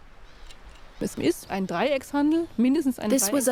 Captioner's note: speaking German